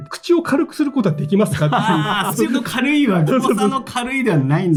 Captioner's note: laughs